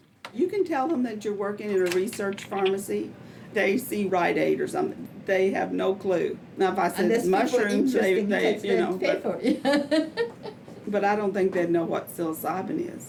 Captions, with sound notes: - [Voiceover] You can tell them that you're working in a research pharmacy, they see Rite Aid or something. They have no clue. Now, if I said mushrooms. - Unless people interested, they will pay for it. (laughs) - But I don't they'd know what psilocybin is.